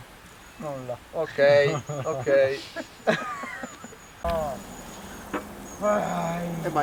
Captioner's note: laughter